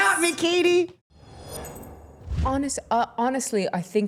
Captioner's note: air whooshing